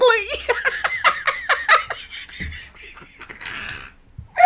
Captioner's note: laughing